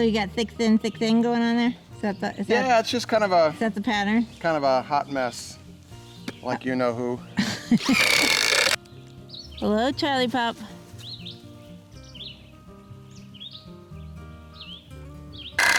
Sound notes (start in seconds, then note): 7.4 woman laughing; 7.9 rattling; 10.8 birds chirping; 10.8 gently music